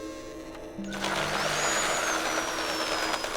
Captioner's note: power tool whirring